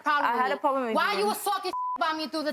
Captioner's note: beep